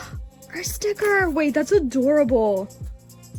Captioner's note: gasp